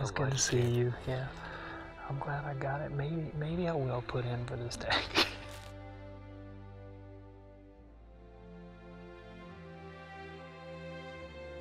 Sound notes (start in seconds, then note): 4.8 laughs; 7.5 soft music